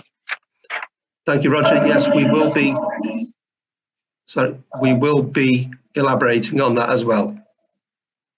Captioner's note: evil sounds